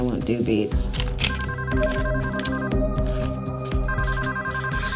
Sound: telephone ringing

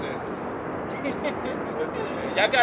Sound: laughs

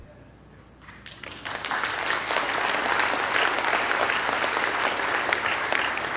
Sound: applause

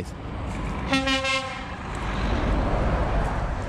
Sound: loud honking

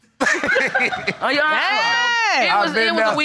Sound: both laughing

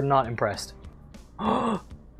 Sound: gasp

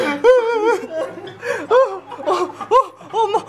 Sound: whines

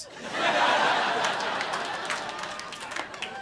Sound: crowd laughing

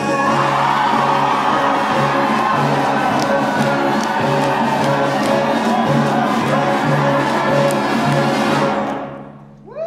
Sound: upbeat Latin music; choir cheering

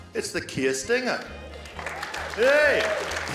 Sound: applause

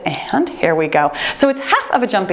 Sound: timer beeps

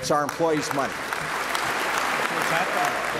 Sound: applause

